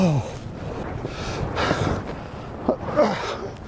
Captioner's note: gruñendo